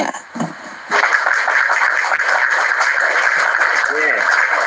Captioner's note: applause